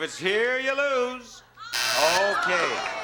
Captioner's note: buzzer sounds